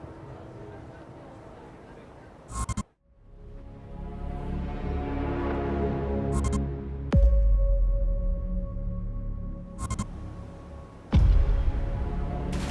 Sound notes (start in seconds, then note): 12.5 water splashes